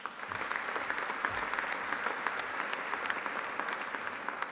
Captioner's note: audience applauding